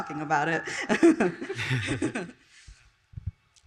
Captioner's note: all laugh